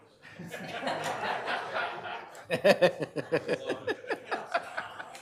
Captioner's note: audience laughing